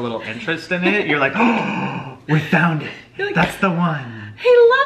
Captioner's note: gasps